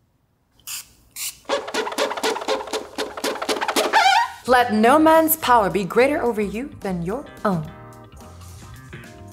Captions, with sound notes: (spritzing) (squeaking) Let no man's power be greater over you than your own.